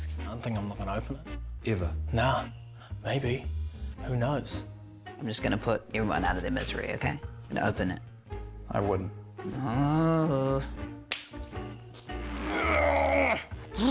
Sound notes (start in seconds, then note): 9.6 groans; 12.2 grunts